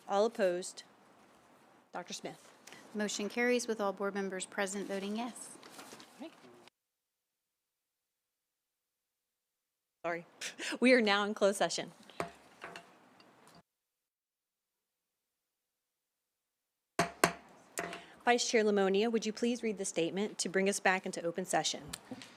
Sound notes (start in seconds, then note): 12.1 gavel hitting dais; 13.0 silence; 17.0 gavel hitting dais